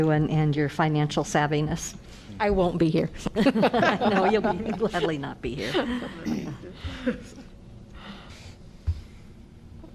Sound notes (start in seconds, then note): 3.3 laughter